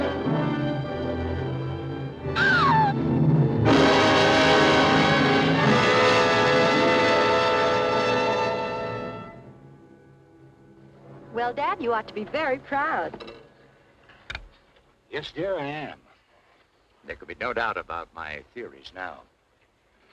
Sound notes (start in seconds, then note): 2.1 gasping; 3.4 ominous music; 9.3 gentle music